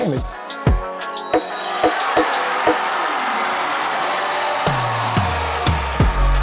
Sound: upbeat music; crowd cheering

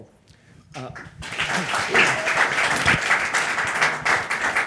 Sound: audience applauding

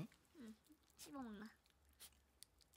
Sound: chewing

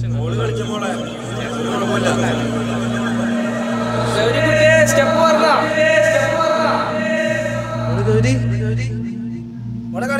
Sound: crowd asking her to dance

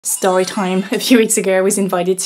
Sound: bells chime

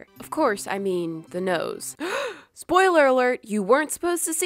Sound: gasp

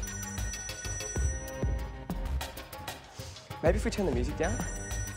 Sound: phone rings

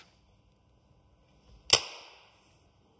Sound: quiet crackling

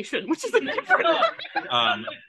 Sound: laughs

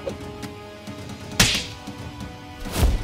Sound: slaps

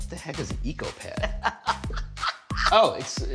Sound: Rachael laughs

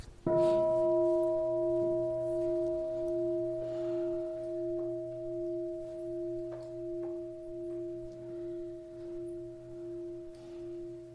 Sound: bell sounds

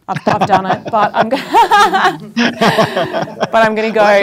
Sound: laughing

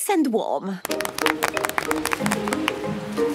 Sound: applause

